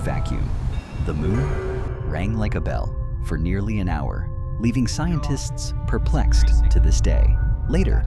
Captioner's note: rang like a bell